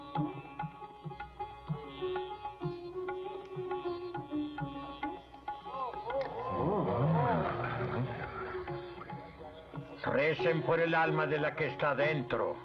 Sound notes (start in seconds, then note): 6.2 crowd Gasping